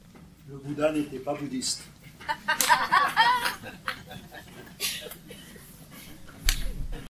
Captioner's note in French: rires